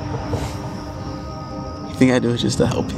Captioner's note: Michael chuckles